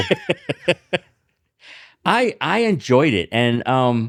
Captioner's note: laughing